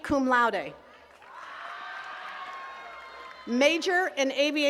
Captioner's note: attendees cheering and clapping